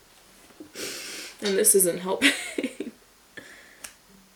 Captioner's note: inhales deeply; chuckles